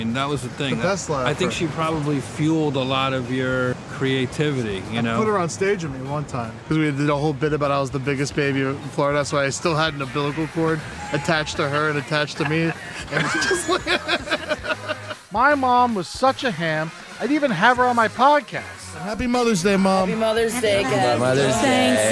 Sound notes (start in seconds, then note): 11.6 laughter